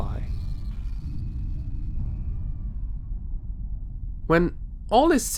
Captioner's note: muffled explosions